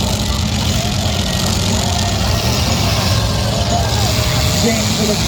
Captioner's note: engines rev and crowd cheers